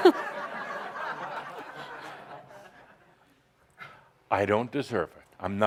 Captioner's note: laughter